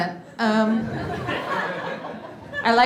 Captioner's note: audience laughing